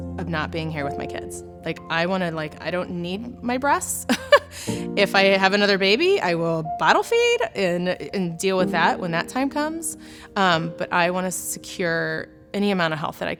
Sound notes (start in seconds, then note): 4.1 chuckles